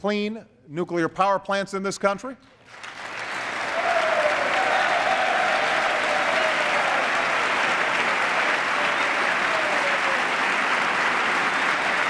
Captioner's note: applause